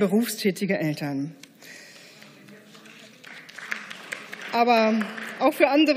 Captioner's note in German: Beifall